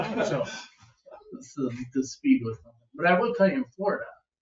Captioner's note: members laugh